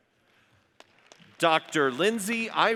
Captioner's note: audience applauds